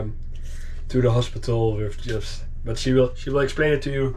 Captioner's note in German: murmelt